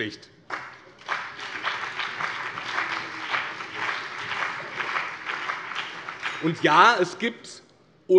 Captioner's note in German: Beifall BÜNDNIS 90/DIE GRÜNEN und CDU